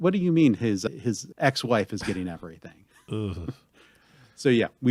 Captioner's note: noise of displeasure